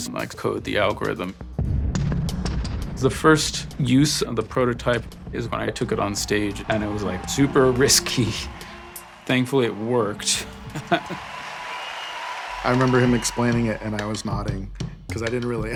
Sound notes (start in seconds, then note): 10.4 laughing